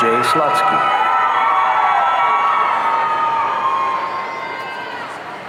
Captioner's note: audience cheering